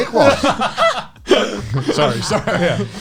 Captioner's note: laughs